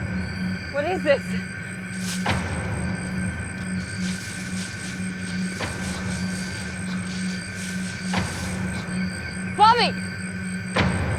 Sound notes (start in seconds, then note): 1.9 rustling